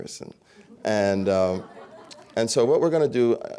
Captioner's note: laughter